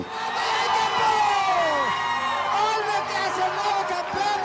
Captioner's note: people yelling